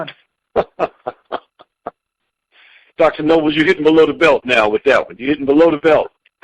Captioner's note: chuckling